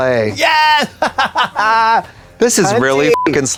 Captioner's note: Katya giggles; beep